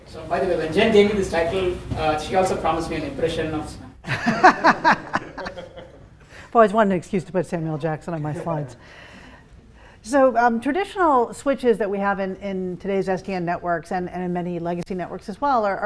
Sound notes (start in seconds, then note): 4.0 laughter